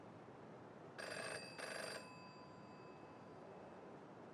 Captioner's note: phone rings